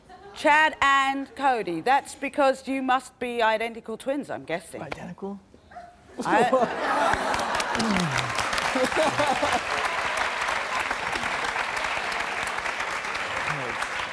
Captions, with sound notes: Chad and Cody. That's because you must be identical twins, I'm guessing. - Identical? (audience applauds) (laughs)